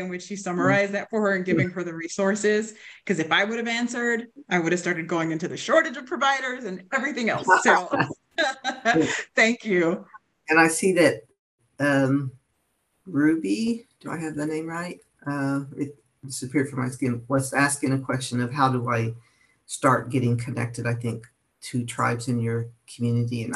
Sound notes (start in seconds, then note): 7.3 chuckles